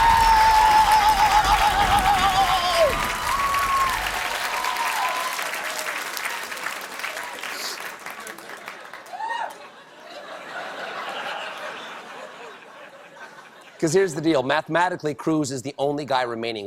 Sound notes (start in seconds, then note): 4.2 cheers and applause; 4.2 laughter